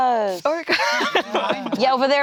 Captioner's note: laughs